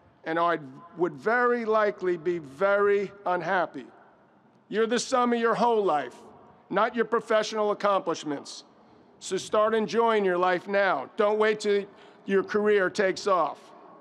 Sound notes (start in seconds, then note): none